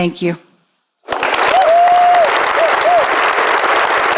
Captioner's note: applause and cheers